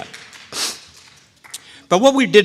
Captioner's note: people clapping